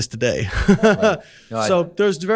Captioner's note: chuckles